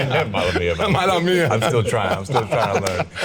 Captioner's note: speaks Spanish; Salvy speaks Spanish